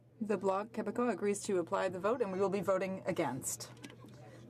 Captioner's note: speaking French